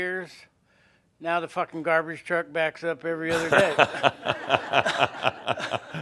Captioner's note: more laughter